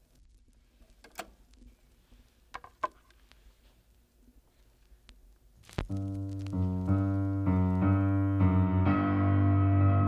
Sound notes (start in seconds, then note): 0.9 click!; 6.0 piano plays in minor tones